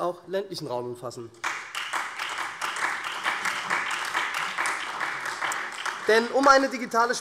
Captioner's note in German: Beifall SPD und Freie Demokraten